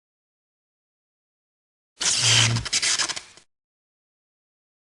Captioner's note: sparking noise